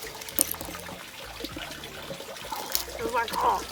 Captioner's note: weird ice sounds